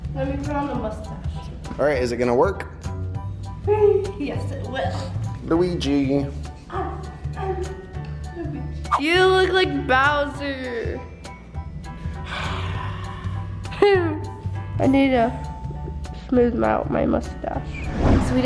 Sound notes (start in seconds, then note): 12.3 roars gently; 13.7 giggles